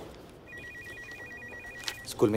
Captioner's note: Phone ringing